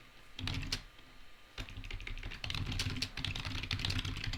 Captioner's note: keys tapping